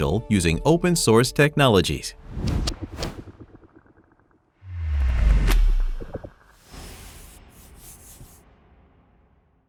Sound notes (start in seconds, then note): 2.3 screen whooshes; 4.6 logo whooshes